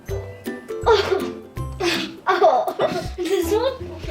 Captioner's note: children laughing